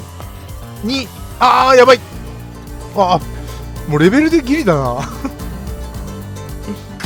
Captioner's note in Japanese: 笑い